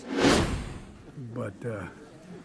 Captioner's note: wind whooshing